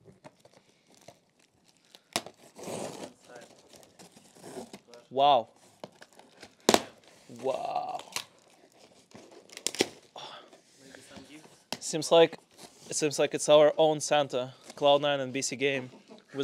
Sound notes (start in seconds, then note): 2.1 tape rustling; 9.6 grunting